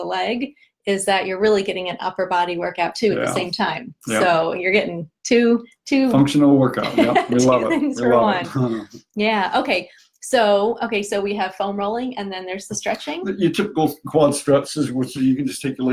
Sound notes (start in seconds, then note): 6.8 laughing